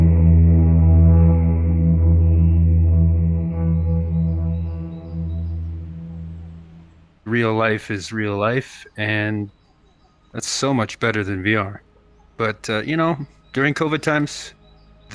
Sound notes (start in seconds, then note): 4.9 birds chirping